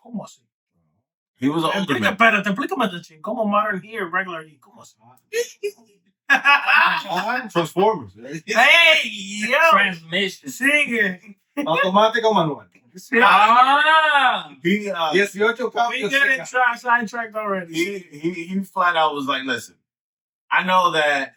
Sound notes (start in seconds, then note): 1.5 speaking Foreign Language; 3.2 laughing; 3.2 speaking Foreign Language; 11.9 speaking Foreign Language